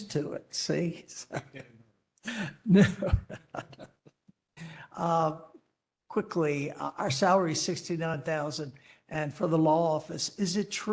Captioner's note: laughter